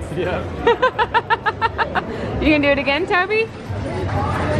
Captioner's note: laughing